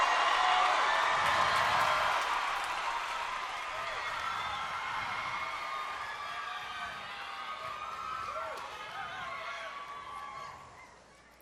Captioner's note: cheers and applause